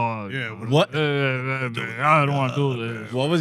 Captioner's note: non-english Speech